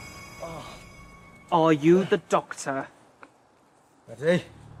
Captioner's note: doctor groans